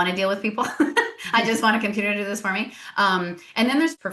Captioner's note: laughs